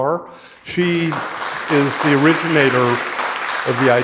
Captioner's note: audience applauding